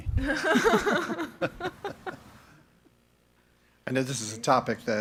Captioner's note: members laughing